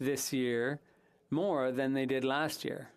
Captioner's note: speaking French